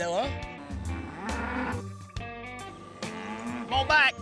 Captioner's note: bull grunting